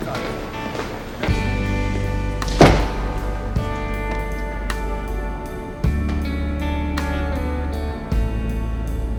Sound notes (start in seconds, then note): 1.9 door slams shut